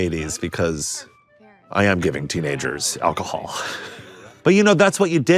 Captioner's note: laughing